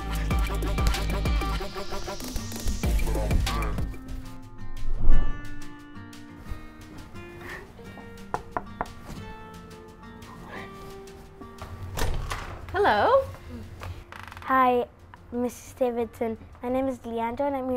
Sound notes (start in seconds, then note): 0.0 intense techno music; 4.5 hopeful guitar music; 8.3 knocking